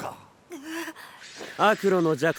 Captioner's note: gasp